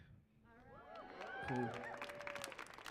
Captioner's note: audience cheers